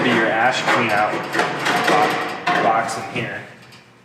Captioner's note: metal clanging